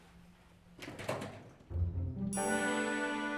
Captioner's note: door clicks open; bright gentle music